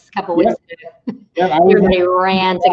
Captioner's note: chuckles